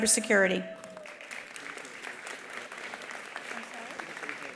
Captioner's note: attendees applauding